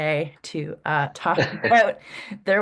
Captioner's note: laughs